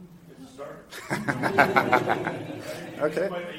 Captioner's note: laughter